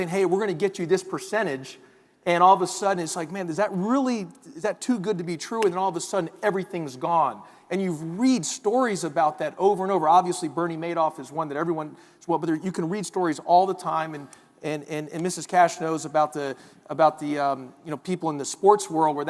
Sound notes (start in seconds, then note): none